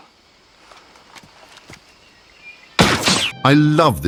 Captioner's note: gunshot